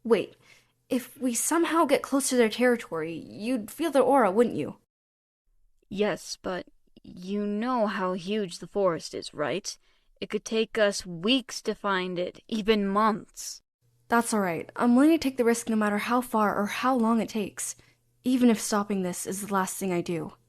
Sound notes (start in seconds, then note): none